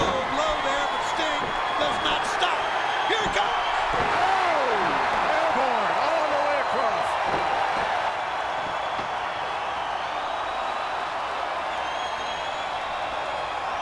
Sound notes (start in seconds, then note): 4.6 Bobby exclaims; 8.1 crowd cheering